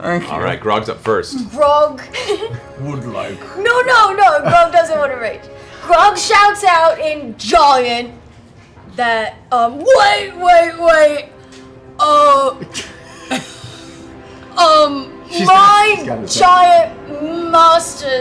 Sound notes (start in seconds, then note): 2.1 Grog voice